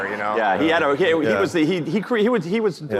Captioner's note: audience laughing